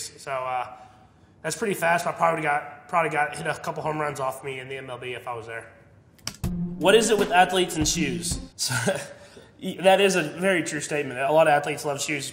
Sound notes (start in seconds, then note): 8.5 laughs